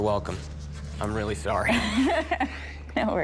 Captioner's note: laughs